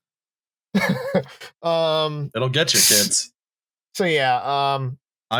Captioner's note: laughs